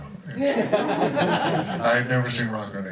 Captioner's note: crowd laughs